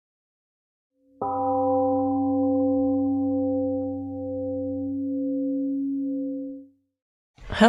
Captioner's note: temple gong rings and fades